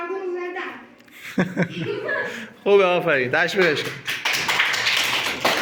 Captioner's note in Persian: باخنده